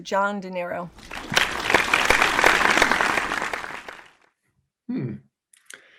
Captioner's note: audience applauds